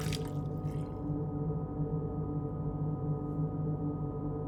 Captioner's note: air conditioner humming